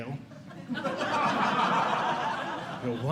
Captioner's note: audience Laughing